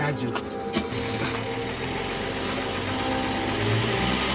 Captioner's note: car starting